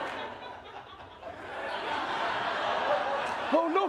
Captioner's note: laughter